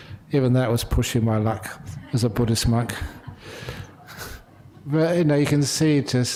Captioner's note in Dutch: lachen